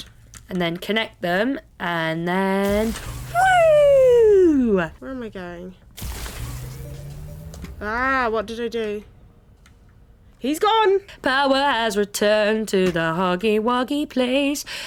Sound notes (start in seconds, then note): 6.4 success game noises; 11.1 singing